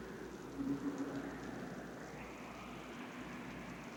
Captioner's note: wind howling